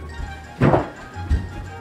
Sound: thud

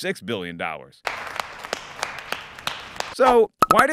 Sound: clapping

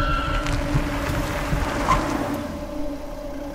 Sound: vehicle Screeching

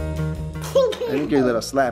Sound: giggling

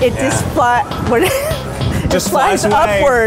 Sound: laughs

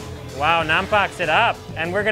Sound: speaks in foreign language

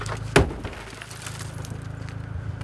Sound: glass smashes

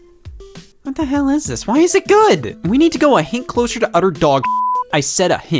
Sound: beep

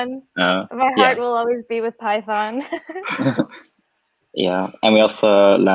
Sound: laughs

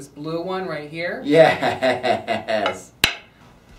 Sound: laughing in delight

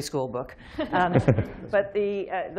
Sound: laughter

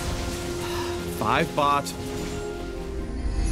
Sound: sigh

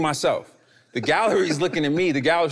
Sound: laughing amusingly

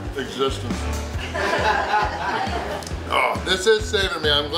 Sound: crowd laughs

